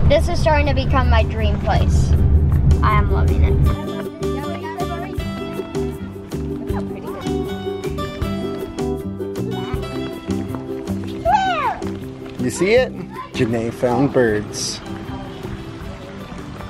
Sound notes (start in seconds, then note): 3.9 happy music; 11.2 exclaims